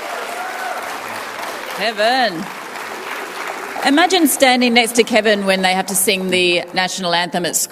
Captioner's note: cheering and applause